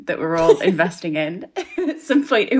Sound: laughter

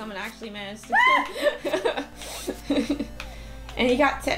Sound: laughter

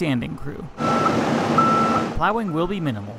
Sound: beep, beep

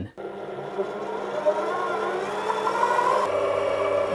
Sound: mixer whirs

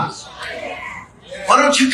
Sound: congregation amens

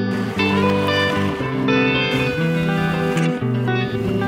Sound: waves splashing

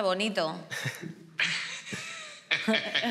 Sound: laughter

